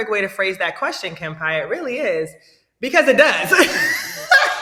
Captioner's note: laughing